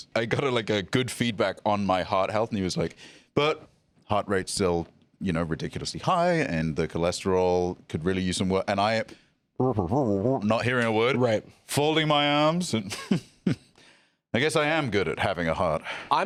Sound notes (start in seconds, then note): 12.8 chuckles imperiously